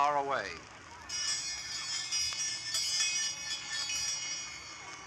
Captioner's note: bells ringing